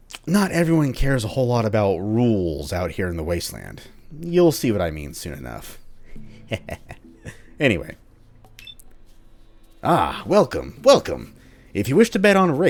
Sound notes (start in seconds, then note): 6.2 devious chuckle